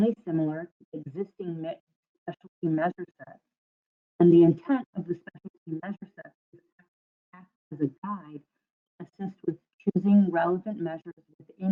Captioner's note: audio drops